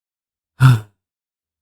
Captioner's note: sigh